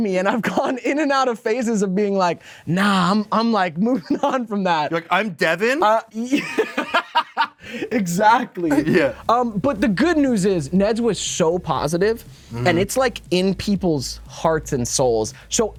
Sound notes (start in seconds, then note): 6.3 Devon laughs